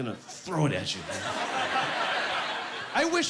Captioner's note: laughing